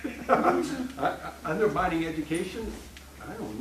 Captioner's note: laughing